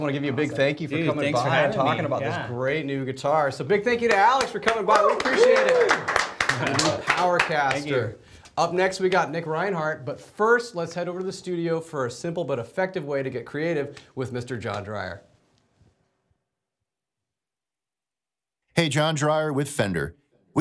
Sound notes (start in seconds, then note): 6.2 studio claps and cheers